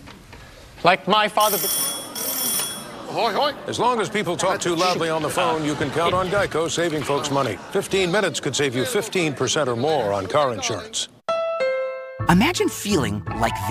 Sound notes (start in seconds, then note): 1.4 telephone ring